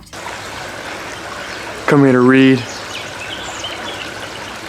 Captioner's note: water sounds